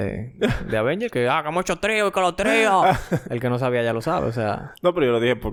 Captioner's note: laughs; laughs